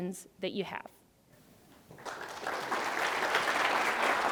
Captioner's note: applause